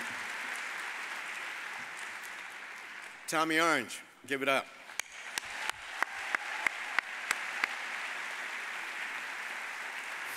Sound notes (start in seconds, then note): 4.8 all applaud